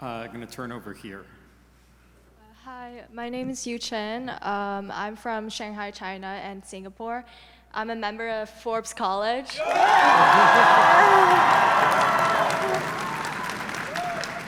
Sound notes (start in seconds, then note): 9.5 audience members cheering